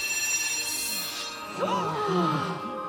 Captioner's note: all gasp